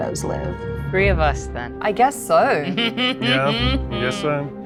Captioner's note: laughs